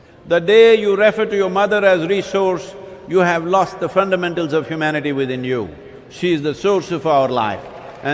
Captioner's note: cheering/Applause